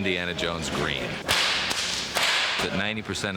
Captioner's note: whip cracks